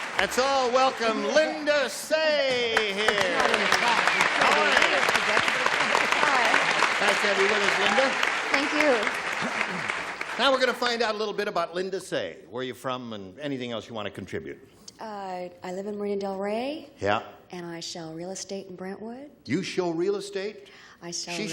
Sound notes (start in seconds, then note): 5.5 applause